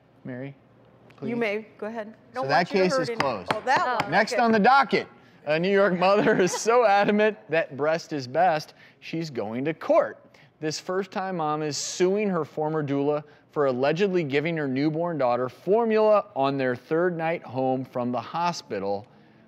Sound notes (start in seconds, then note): 3.4 gavel banging